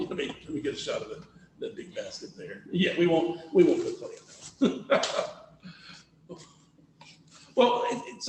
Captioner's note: laughs